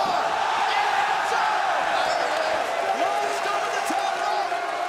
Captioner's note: crowd cheering